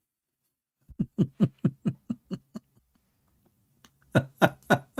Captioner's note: Ketawa